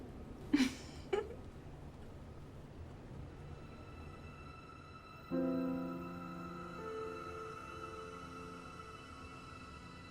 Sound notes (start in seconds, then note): 0.5 chuckles; 5.4 somber music